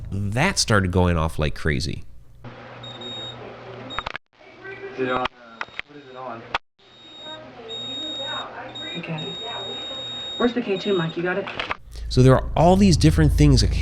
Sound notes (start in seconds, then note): 2.8 beeping; 5.0 people murmuring